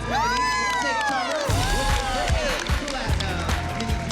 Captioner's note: cheering and applause